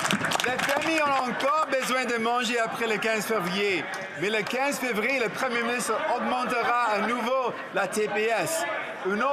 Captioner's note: some Applause